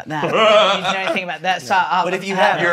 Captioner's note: laughs